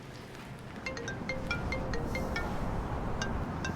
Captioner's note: phone ringing